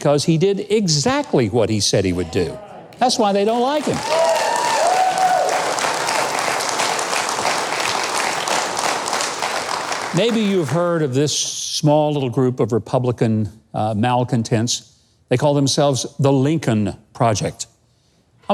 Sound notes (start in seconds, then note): 3.8 cheering